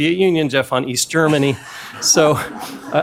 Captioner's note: laughter